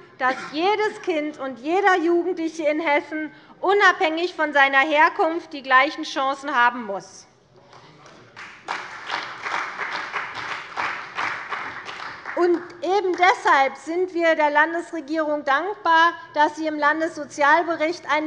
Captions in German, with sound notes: dass jedes Kind und jeder Jugendliche in Hessen, unabhängig von seiner Herkunft, die gleichen Chancen haben muss. [Beifall bei Abgeordneten der CDU und des BÜNDNISSES 90/DIE GRÜNEN] Deshalb sind wir der Landesregierung dankbar, dass sie im Landessozialbericht einen